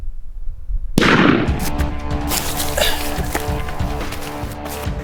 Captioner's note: rifle shooting